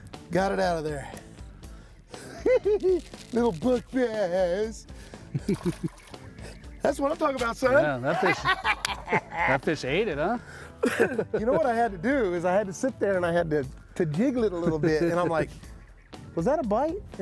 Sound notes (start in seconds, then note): 2.4 chuckles; 7.2 cackling